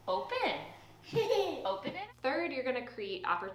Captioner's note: child laughs